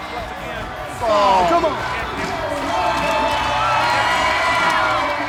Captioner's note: audience cheering loudly